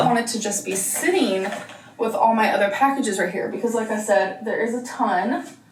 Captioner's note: none